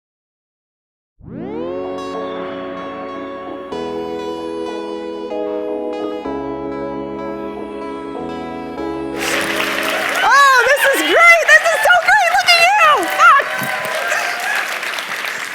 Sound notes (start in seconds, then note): 9.1 applause; 9.1 cheers